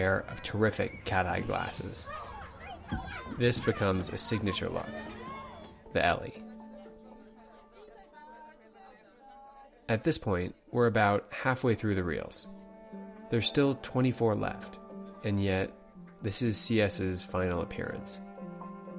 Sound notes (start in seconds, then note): 1.4 children yelling; 7.8 people talking; 7.8 piano music